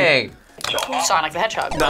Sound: buzzer

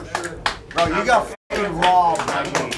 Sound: crew clapping

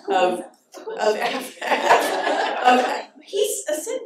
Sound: laughter

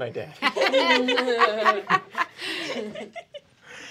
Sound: group laughing

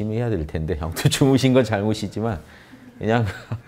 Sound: laughters

